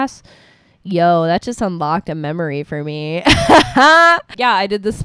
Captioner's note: laughs